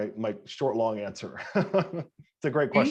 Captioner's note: laughing